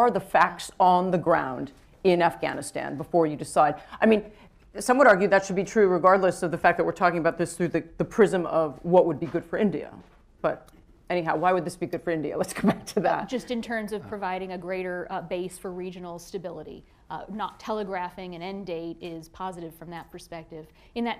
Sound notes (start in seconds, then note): 13.1 chuckles